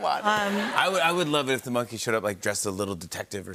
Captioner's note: laughter